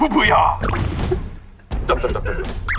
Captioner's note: the original writer can't stop laughing